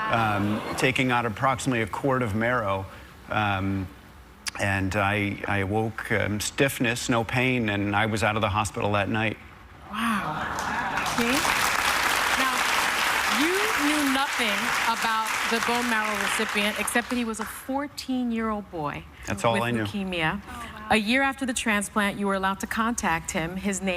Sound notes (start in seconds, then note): 14.0 applause